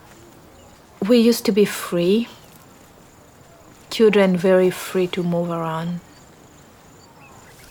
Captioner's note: none